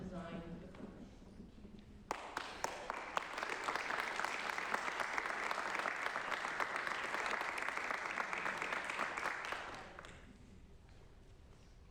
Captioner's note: applause